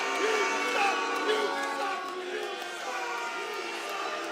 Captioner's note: fans chanting